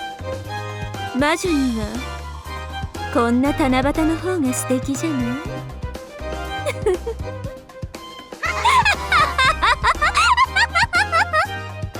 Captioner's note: giggle